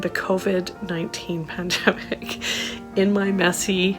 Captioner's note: laughter